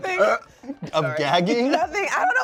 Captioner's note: imitates gagging